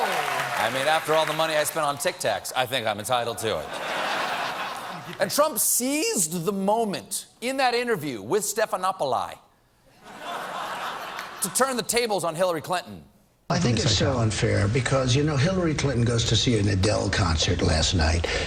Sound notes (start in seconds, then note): 5.9 laughter